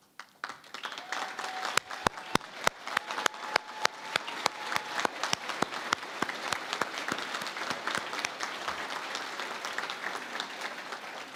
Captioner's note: applause